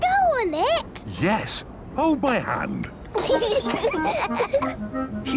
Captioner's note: children giggling